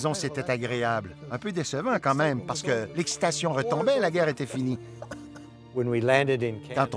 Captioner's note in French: rire